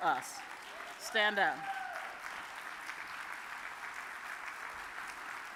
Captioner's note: audience applauds